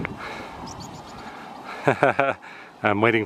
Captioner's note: laughter